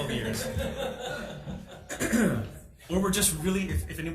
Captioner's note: people laugh